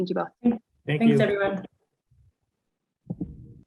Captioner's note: silence